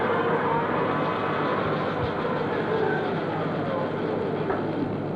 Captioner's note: whurring noise